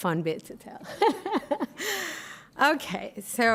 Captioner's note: laughing